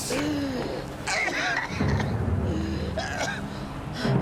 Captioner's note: coughing